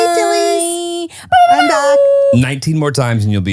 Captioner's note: humming